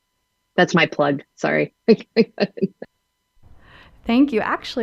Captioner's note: laughs